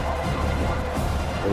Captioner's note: crowd Noises